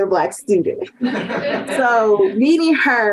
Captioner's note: group laughing